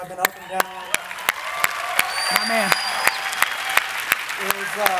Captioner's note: audience cheering